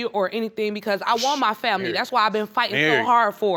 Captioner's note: scoffs